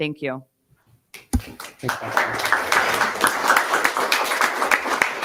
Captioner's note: attendees applauding